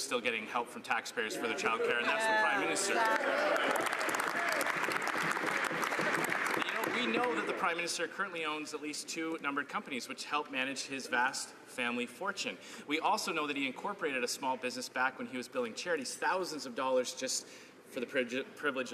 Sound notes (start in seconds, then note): 6.6 some Applause